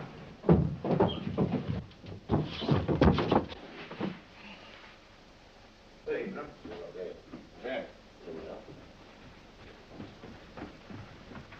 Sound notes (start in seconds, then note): 0.4 thudding; 5.7 indistinct chatter